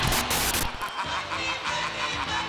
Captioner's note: static hisses